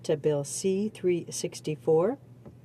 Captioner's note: speaking French